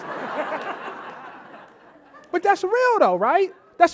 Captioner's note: audience laughing